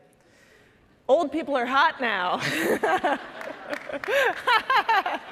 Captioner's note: all laughing